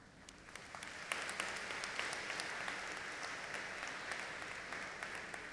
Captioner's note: audience applauding